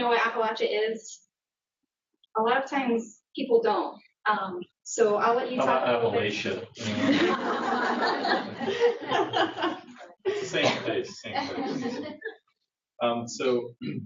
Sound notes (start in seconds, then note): 11.8 laughter